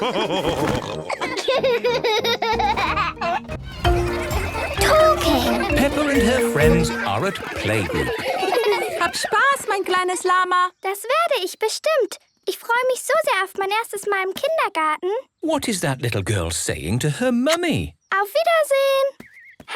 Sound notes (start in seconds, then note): 0.0 laughs; 0.3 all laughing; 8.4 laughter; 8.4 speaking German